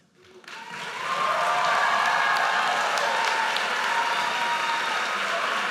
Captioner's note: audience cheers and applauds